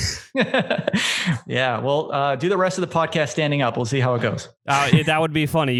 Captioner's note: laughs